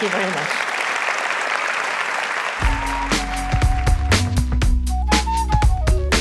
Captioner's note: applause